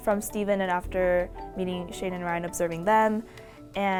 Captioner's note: none